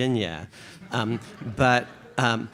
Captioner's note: audience chuckles